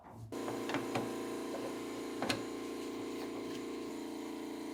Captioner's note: motor whirring